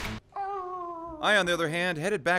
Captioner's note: howling